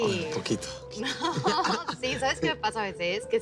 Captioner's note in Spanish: Risas